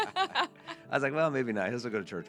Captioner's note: laughing